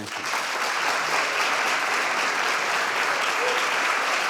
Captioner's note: audience applauds